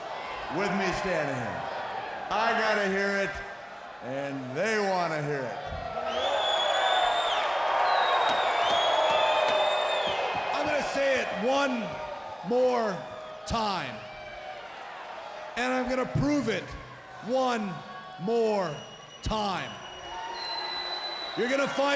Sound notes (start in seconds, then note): 5.9 crowd cheering